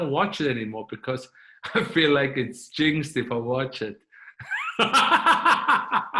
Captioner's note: chuckling